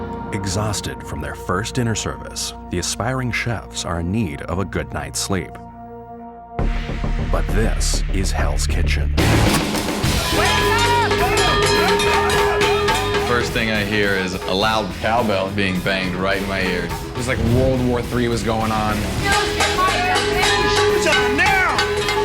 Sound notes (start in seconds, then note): 10.1 banging pots; 19.3 banging